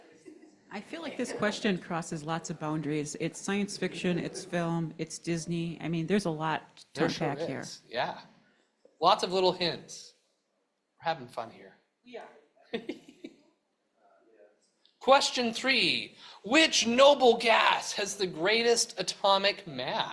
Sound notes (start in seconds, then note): 12.7 chuckles